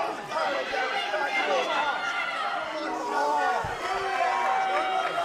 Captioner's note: crowd chatter